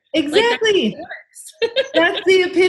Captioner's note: laughs